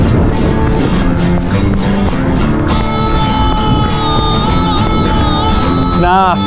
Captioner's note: air whooshing; footsteps plodding